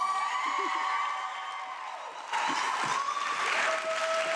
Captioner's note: audience clapping